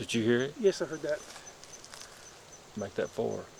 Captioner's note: knock whacks distantly